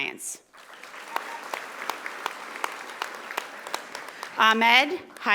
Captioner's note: audience applauding